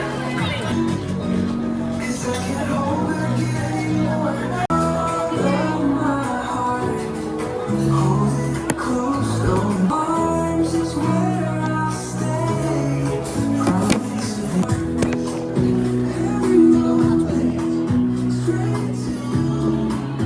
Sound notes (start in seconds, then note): 12.3 whispers all around 👥👥